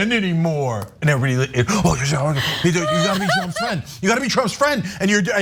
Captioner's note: laugh